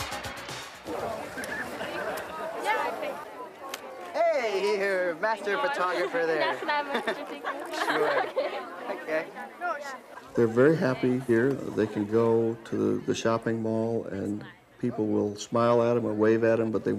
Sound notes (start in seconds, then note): 1.1 people speaking amongst themselves; 6.4 woman laughs